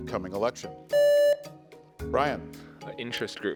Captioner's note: contestant beeping